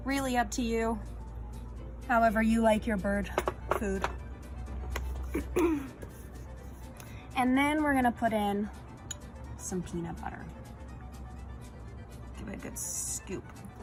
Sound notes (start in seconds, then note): 5.3 clearing throat